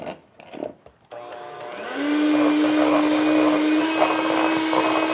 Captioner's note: metal grinding; mechanical whirling